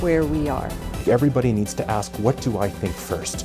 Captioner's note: voiceover